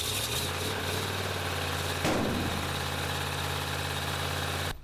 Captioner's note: engine starting